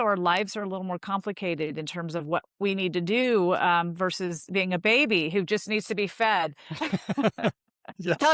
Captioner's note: laughs